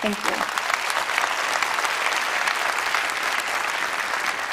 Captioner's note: applause